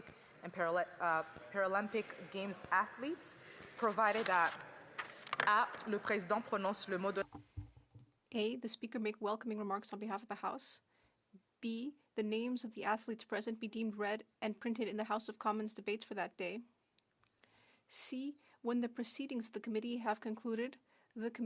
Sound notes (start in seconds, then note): 12.3 speaking French